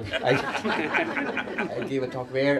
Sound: laughter

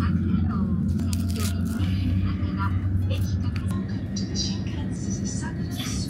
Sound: announcer speaking in Japanese

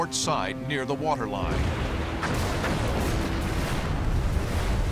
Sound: explosions

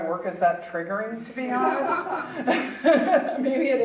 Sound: audience chuckling

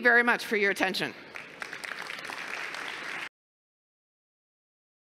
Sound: applause

